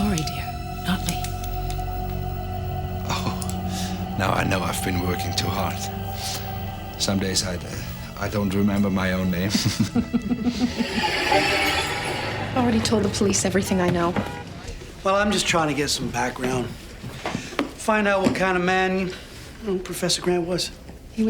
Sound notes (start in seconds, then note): 9.8 laughs